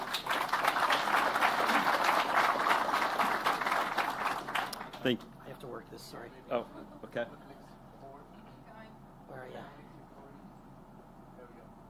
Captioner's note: applause